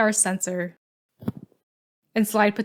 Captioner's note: thud